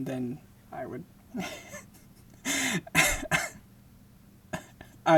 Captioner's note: laughing